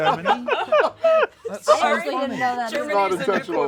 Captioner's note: laughter